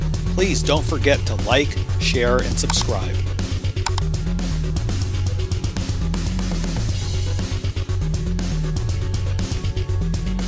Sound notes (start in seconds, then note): 3.8 upbeat rock music; 3.8 image clicks